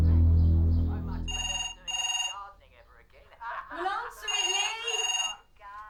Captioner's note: phone rings; phone still ringing